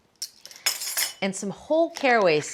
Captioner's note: spoons clattering